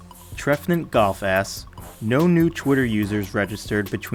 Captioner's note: voiceover